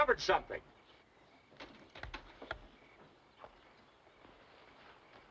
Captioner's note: crickets chirping